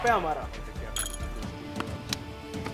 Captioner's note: Glass sound